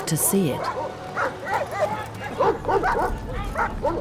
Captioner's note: dogs barking